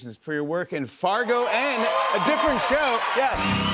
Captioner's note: cheers and applause